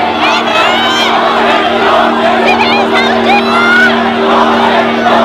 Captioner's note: yelling at the police